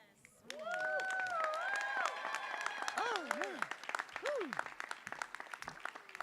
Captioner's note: audience cheering and applauding